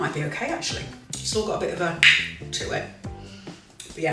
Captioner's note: loud click